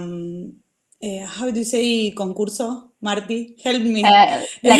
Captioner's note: foreign language